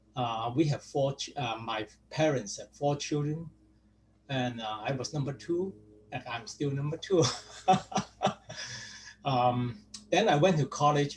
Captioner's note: laughs